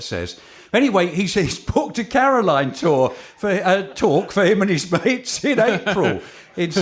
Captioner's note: laughter